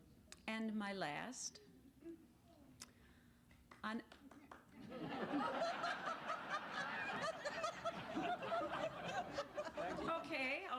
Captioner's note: laughter